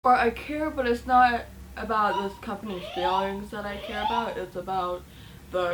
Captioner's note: fire alarm beeping